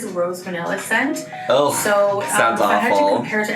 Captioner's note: groans